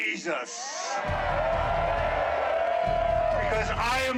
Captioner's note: crowd cheering